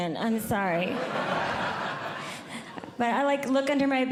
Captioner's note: audience Laughing